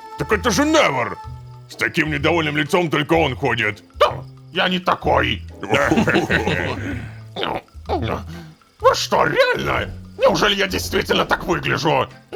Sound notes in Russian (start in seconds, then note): 5.6 Общий смех